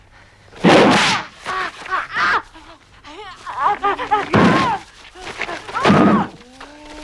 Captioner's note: Hundra groaning; Torente shouts